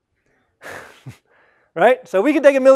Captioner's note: laugh